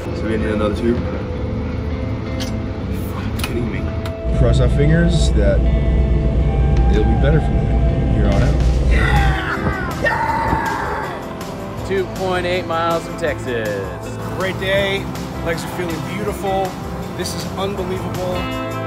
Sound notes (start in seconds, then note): 8.8 guys cheering; 18.6 soft rock music